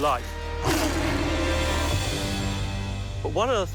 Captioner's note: roars